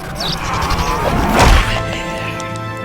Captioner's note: lights buzzing; vampire growls; blood squelches; fist thuds; solemn music